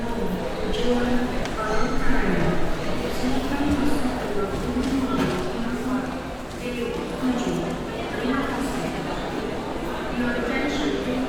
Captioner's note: ambience in airport